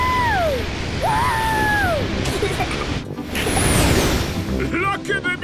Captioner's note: rocket thrusting